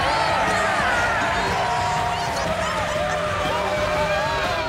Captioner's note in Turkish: Bağırıyorlar